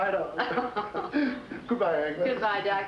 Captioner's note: chuckling